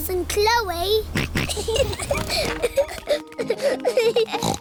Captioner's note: snorts; kids giggling